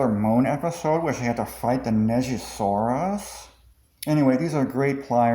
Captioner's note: discord mod voice